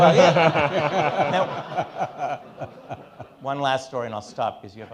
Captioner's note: all laughing